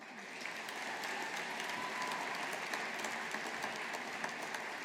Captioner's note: audience applauding